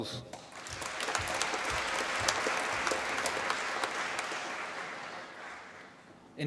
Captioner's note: applause